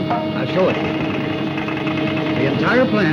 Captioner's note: oil can clattering